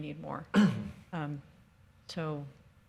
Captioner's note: man clears throat